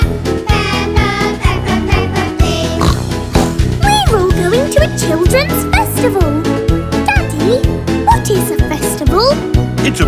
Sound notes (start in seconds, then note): 0.0 singing; 2.7 oink